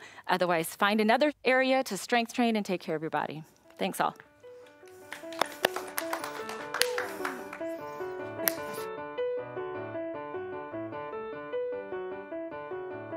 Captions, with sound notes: Otherwise, find another area to strength train and take care of your body. Thanks, all. [participants applauding] [gentle music]